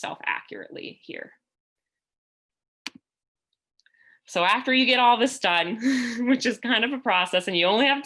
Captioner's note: laughter